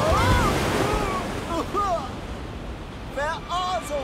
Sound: coughing

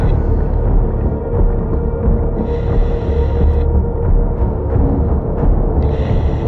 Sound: chilling music continuing; oxygen whooshing continuing

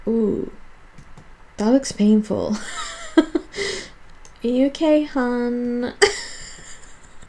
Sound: laughs

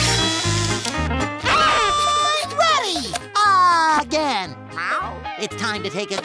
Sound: meowing

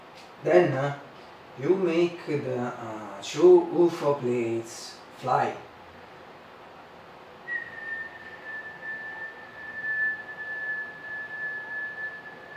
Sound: whistle

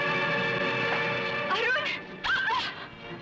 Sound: gasps

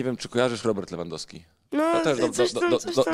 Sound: laughs

